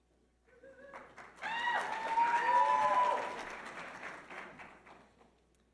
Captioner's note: audience applauding